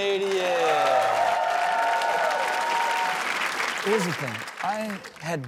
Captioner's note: audience applauds